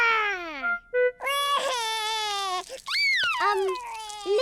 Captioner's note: crying